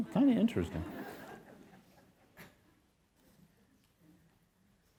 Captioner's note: audience chuckles